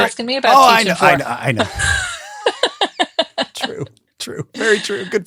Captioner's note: both laughing